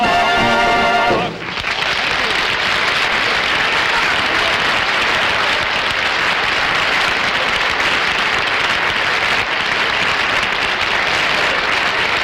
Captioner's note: audience Applauding